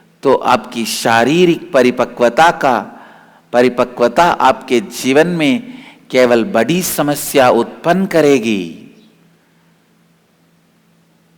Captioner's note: hindi